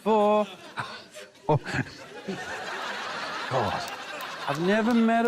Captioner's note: laughs